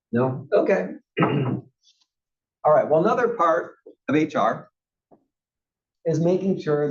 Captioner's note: cough